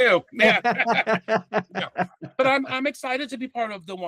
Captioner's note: laughing